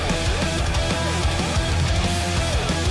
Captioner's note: Yumeko on the side was snickering